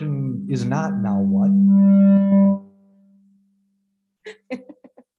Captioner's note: microphone blares; laughter